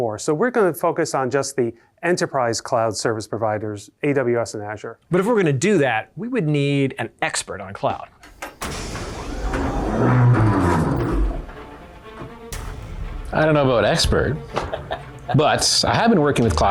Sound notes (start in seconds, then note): 8.2 hydraulics hiss; 8.3 epic music